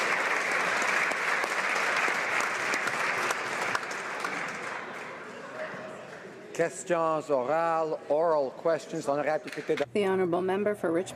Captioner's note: applause